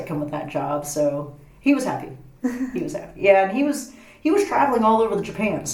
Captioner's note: laughs